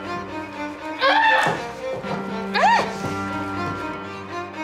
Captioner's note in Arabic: صراخ